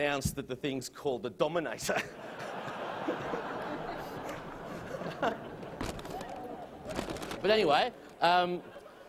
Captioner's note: laughter